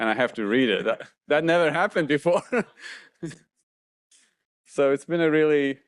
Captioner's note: laughs